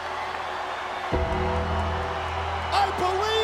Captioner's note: bell tolls